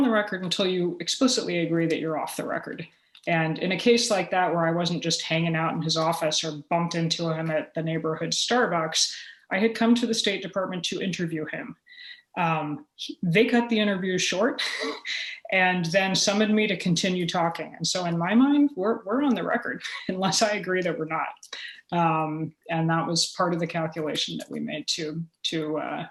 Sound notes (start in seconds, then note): 15.2 chuckle